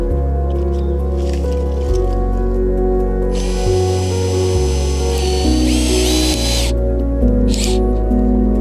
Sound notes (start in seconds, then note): 3.3 driller whirring